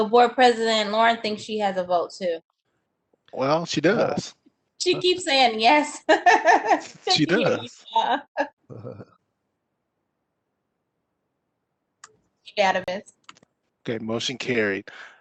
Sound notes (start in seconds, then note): 6.0 laughs